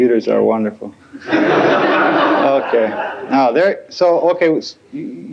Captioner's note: laughter